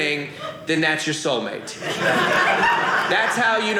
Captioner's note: audience laughing